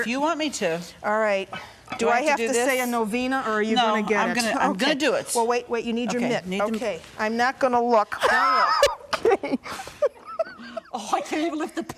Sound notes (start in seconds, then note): 8.2 laughing